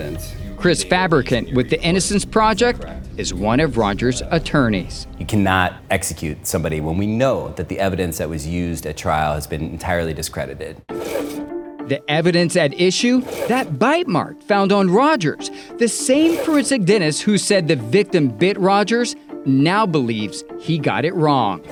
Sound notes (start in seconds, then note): 10.7 mysterious music; 10.9 slide scrapes; 20.8 slide scrapes